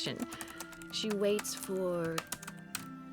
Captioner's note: typing stops